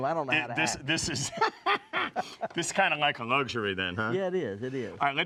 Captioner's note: laughs